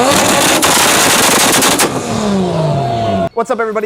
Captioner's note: engine roaring